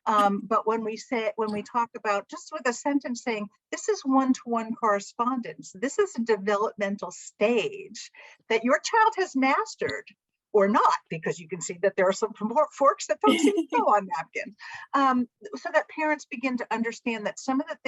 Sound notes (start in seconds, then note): 13.2 laughter